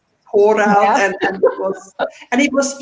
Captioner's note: laughs